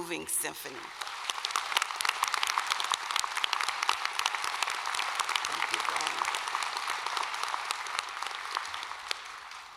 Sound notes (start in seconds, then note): 6.1 applause